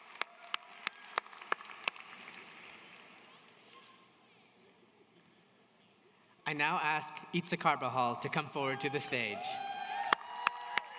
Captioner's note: applause